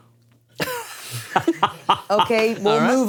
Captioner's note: laughing